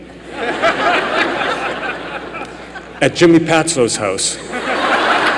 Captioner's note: laughter